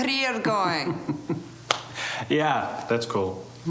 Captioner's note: chuckling